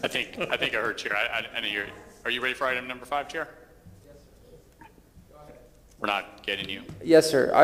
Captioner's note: off microphone